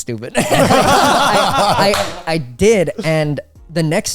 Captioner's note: all laughing